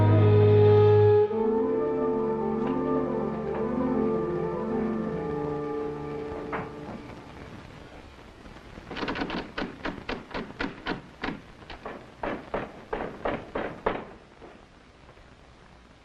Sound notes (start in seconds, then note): 8.9 door handle rattles; 11.7 knocks